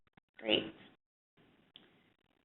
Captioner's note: voiceover